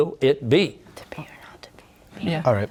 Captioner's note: whispering